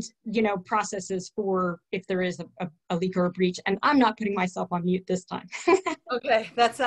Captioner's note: laughter